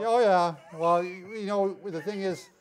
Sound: laughing

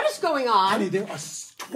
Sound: none

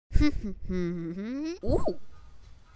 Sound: humming Random Tune

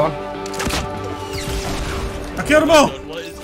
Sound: RPG firing

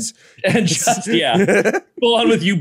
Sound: laughs

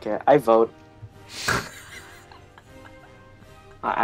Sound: laughs

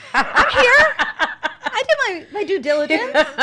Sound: laughs

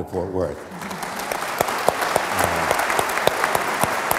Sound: audience applauds

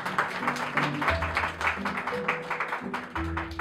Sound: applause

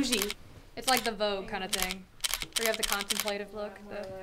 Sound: snap snap of the camera taking pictures

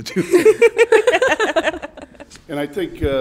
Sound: women laughing

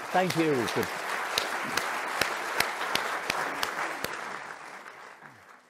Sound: audience applauding

